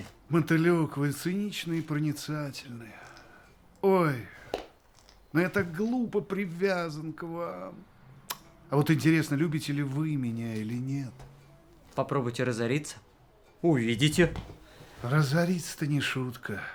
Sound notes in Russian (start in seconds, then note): none